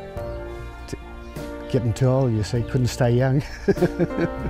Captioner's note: laughs